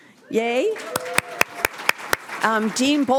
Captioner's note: applause